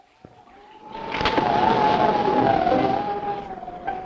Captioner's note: wind howling